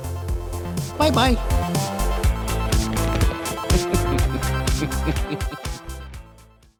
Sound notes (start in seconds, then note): 0.1 upbeat music continues; 2.8 paws pounding; 3.6 laughing